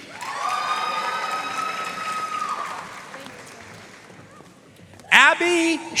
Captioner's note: audience cheering and applauding